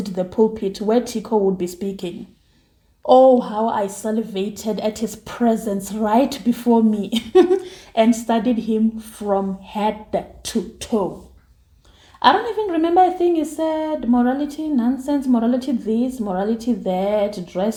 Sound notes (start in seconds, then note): 7.1 laughs